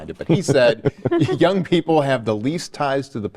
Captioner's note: panelists chuckling